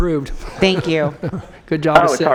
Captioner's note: phone ringing